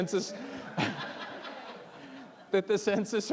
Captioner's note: all laughing